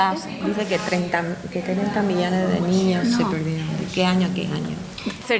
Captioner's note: speaking in foreign language